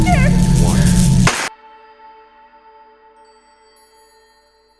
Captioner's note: electrical spark